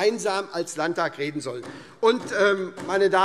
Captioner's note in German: Beifall SPD